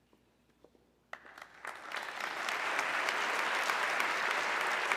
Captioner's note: audience clapping